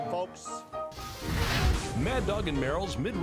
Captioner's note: brand sizzling